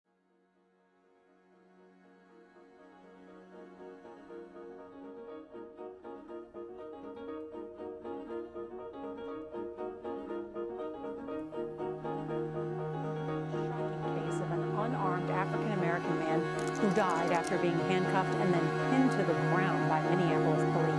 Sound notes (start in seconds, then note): 13.7 voice of a female news anchor